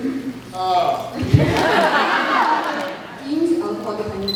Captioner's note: laughs